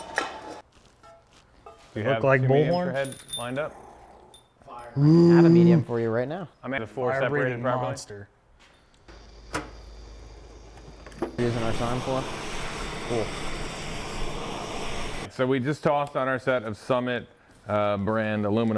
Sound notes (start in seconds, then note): 14.2 torch firing